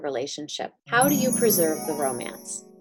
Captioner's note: magic chimes